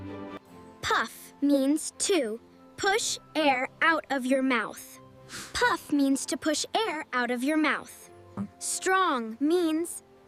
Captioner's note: Puff